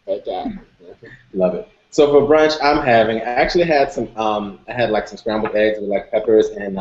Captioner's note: laughter